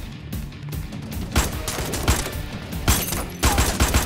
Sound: bullets firing

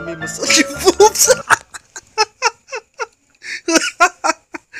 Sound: laughing af

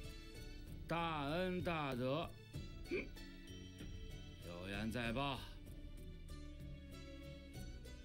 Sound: burp

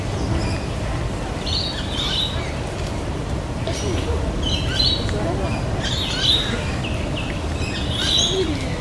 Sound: bird chirping

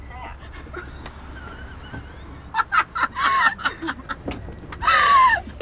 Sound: chuckling

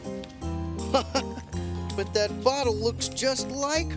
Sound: laughing

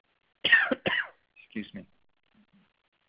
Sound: coughing

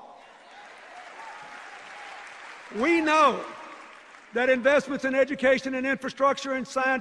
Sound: cheers, applause

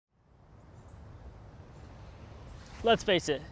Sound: waves, birds

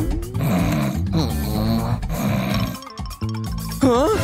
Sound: roaring; snoring

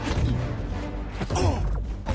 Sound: grunt

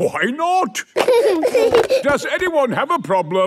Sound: giggling

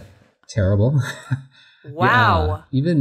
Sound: laughs

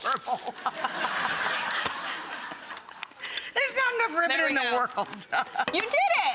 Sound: laughing

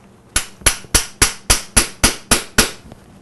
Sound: hammering sound

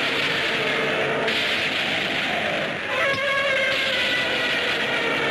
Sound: electricity crackles

